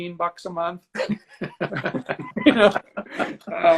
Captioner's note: laughing